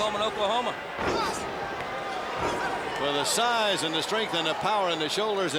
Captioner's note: crowd cheering